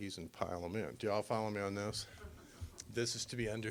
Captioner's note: audience laughing